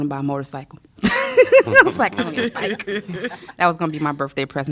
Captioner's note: laughter